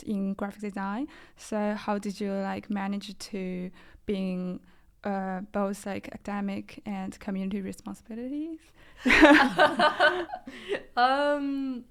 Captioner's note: laughter